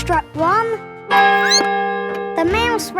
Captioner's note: squeaks; clock chimes